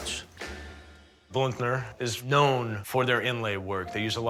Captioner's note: none